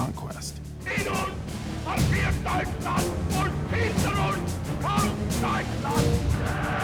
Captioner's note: speaking German; crowd cheering